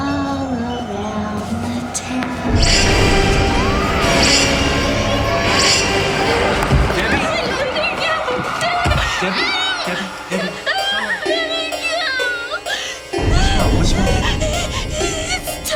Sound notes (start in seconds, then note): 3.9 screaming; 12.0 crying